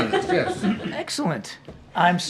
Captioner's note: laughter